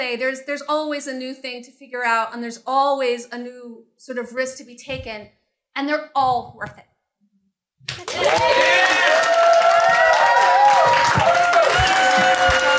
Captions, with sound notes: there's there's always a new thing to figure out, and there's always new sort of risk to be taken, and they're all worth it. [applause]